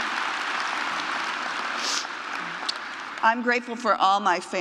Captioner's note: applause